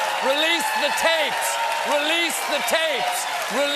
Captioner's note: cheers and applause